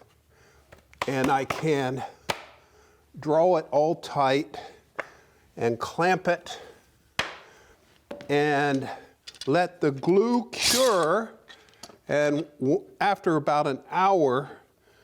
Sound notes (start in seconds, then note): 8.1 hammering; 10.5 clamp scratching